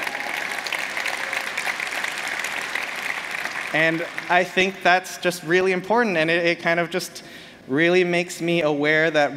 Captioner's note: applause